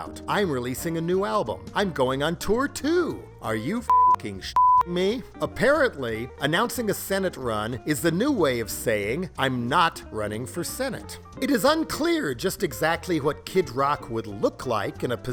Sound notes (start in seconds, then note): 4.5 beep